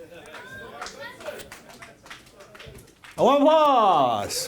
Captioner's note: people clapping